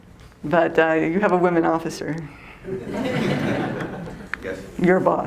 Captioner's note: all chuckle